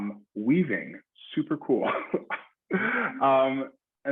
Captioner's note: chuckles